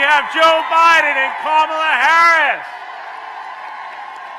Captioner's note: applause